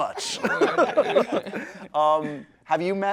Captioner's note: laughing